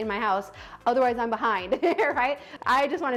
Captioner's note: laughs genuinely